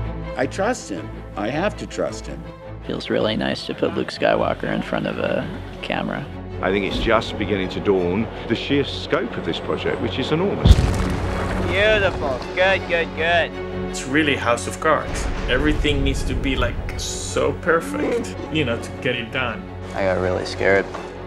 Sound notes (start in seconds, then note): 10.6 props falling; 17.8 Chewbacca groans